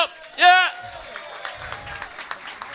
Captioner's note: applause and cheers